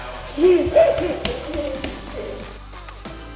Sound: giggles; upbeat music

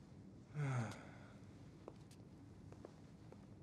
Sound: Thomas sighs

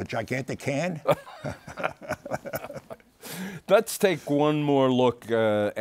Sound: both laughing

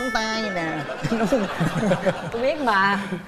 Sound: chuckles

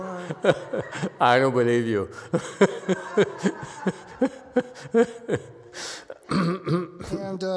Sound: laughs

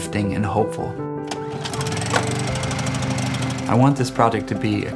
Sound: generator revving

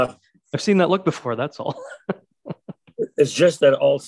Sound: laughing

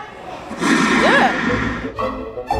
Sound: children talking; loud roaring; magical music plays

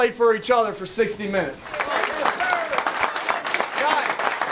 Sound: applause

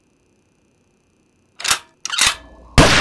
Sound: gun reloads; radio station FX; gun shot

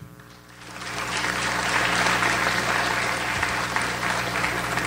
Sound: audience applauds

